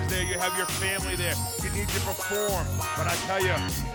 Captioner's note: none